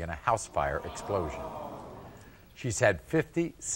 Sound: audience groaning

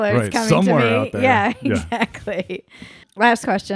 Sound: laugh

